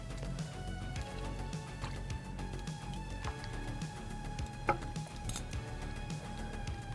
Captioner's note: soft upbeat music; broth sloshing